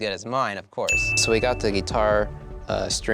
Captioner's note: bell rings